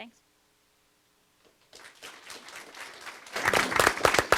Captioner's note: audience claps